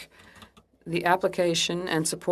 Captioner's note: speaking French